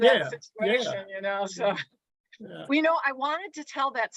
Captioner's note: chuckles